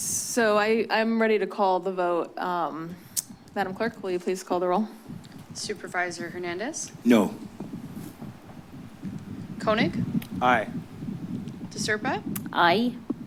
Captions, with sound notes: - So I'm ready to call the vote. [clicks tongue] Madam Clerk, will you please call the roll? - Supervisor Hernandez? - No. - Koenig? - Aye. - De Serpa? - Aye.